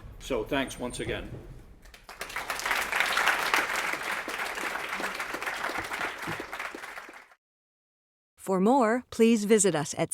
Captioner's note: applause